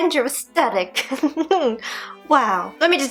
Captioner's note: giggles adorably